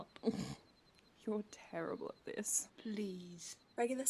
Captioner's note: Regulus snorts